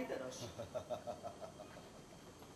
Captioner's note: γέλιο